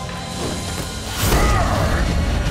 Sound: grunting

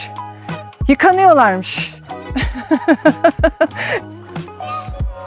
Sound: laughter

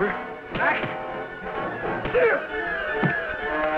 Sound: grunting

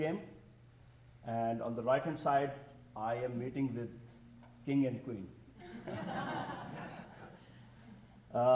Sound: audience titters

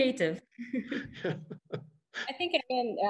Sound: laughs

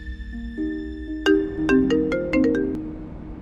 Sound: phone ringing

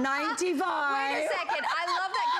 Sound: laughter

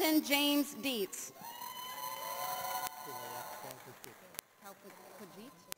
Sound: audience cheers

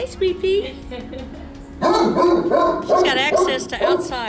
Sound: dog barking

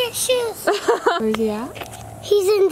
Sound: laughs

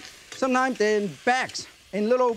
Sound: wok clinking

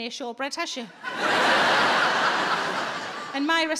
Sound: audience laughing

